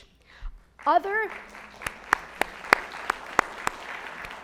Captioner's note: audience applauds